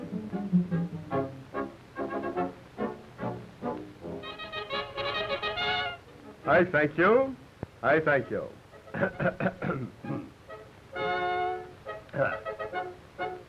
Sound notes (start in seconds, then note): 4.2 fanfare music; 9.0 clears throat